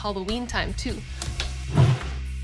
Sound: flames whoosh

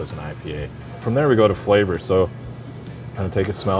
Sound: inhales loudly

